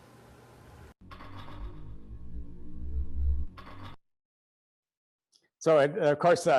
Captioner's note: machine clattering; machine whirring